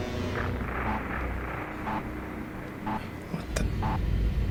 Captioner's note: computer beeps